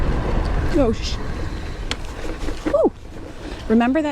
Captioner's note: brake hiss